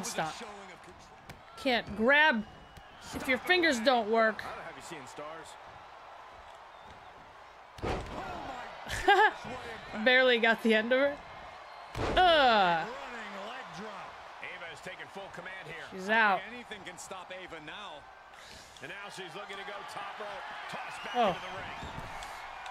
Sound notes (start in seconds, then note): 8.1 applause; 8.8 laugh